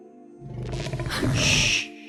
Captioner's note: Revin gasps